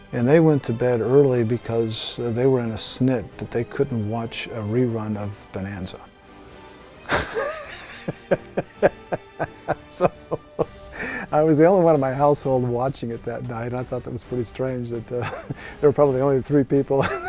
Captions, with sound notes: And they went to bed early because they were in a snit that they couldn't watch a rerun of Bonanza. (laughing) So, I was the only one in my household watching it that night. I thought that was pretty strange that-- They were probably the only three people (laughing)